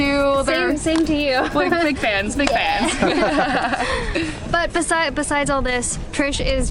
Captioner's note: laughter